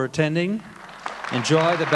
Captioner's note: audience applauding